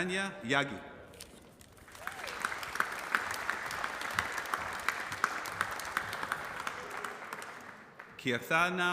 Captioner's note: applause